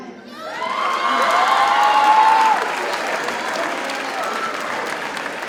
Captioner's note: audience cheers and applauds